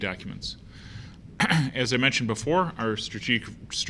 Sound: cough

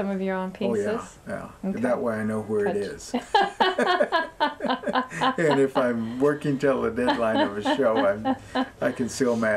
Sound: laughter

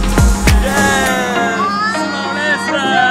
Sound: cheers

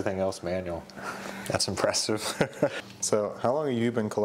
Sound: chuckles

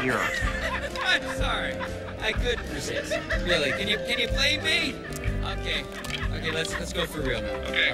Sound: the crew laughs

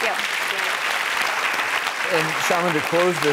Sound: loud clapping

